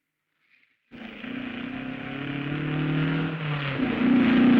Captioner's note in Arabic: صوت المحرك